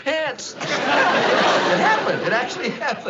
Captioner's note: chuckles